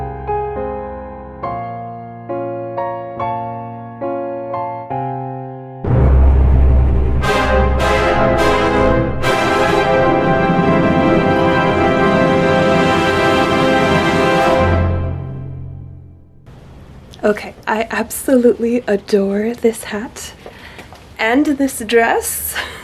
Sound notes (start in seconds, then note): 9.2 bell; 10.4 snorts